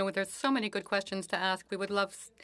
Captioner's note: speaking French